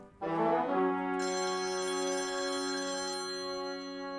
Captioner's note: phone rings